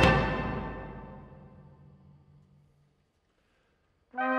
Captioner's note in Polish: Nagła cisza